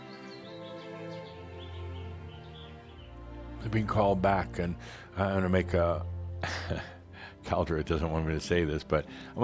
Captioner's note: Adamus chuckles